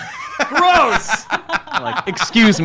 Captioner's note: laughs